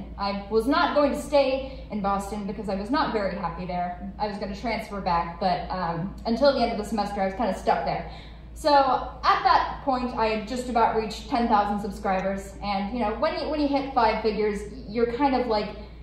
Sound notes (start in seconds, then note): none